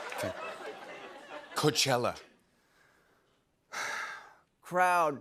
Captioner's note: breathes deeply